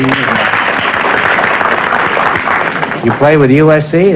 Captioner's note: applause